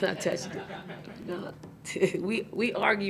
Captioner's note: audience laughing